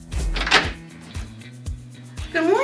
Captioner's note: sound of door opening